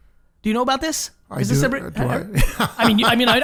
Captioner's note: laughs